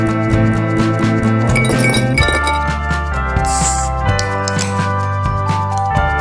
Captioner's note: video flips to a glass jar clinking as it's filled with ice cubes